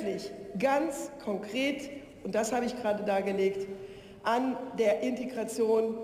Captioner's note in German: none